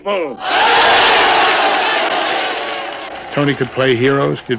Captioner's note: crowd cheering